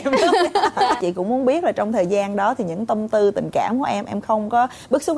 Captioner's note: laughing